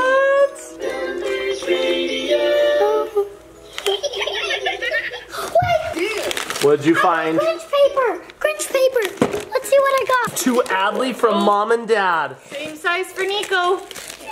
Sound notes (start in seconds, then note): 5.6 boombox cackles